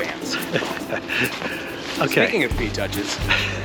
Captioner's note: laughs